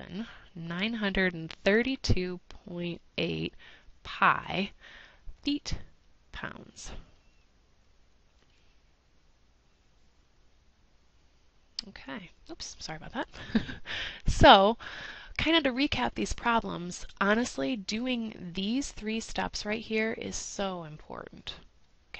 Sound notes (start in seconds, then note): 13.3 laugh